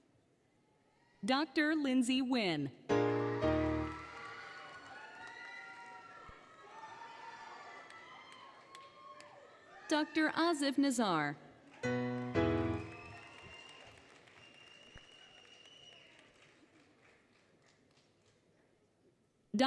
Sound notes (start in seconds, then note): 3.0 applause, Cheering, Music; 3.0 applause, Cheering; 11.6 applause, Cheering; 11.7 applause, Cheering, Music